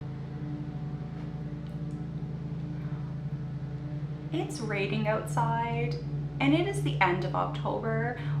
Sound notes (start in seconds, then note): 0.0 lawnmowing noise from outside